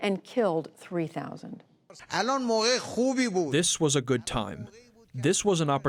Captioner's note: through translator